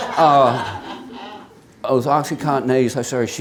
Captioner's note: many chuckling